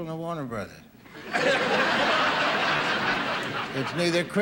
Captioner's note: audience laughing